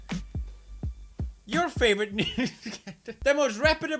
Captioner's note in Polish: śmiech